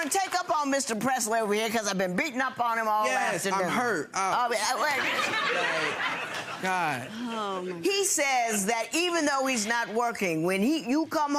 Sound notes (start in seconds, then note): 4.6 audience laughing